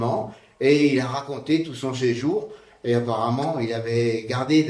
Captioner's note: speaking in French